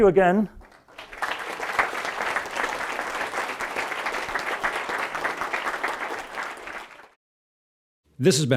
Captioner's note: applause